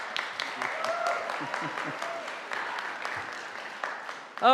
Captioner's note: audience applauding